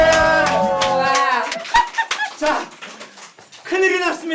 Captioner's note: laughing